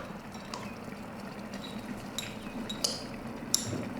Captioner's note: water boiling